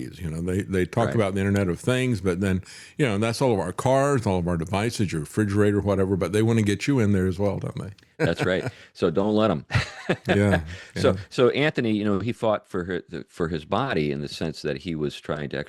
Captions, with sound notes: They talk about the internet of things, but then that's all of our cars, all of our devices, your refrigerator, whatever, but they wanna get you in there as well, don't they? That's right, so don't let them. (Laughs) So Anthony, he fought for his body in the sense that he was trying to